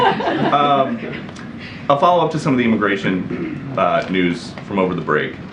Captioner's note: laughter